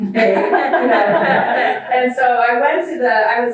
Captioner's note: audience laughs